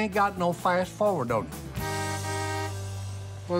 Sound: horn honking

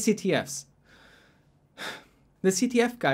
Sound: breath

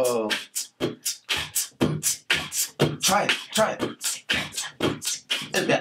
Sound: Mr. Max and Teddy beatboxing

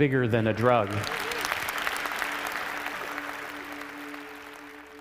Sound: audience applauds

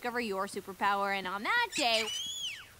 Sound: squirrel squeals

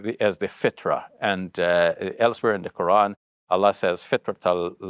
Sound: speaks Arabic

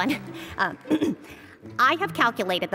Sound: cough

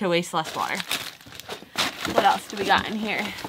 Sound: paper crunching

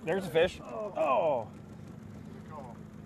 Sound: groaning

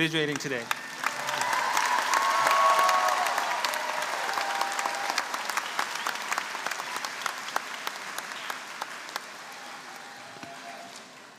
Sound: applause

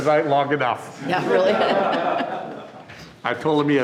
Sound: audience laughing

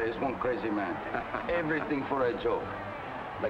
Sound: Marcel laughs

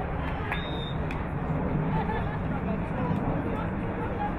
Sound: whistle blowing

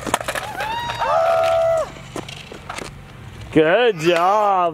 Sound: people cheering

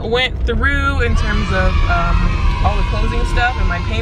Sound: children exclaiming

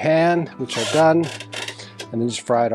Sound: whirring

